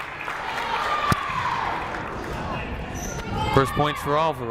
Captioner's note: clapping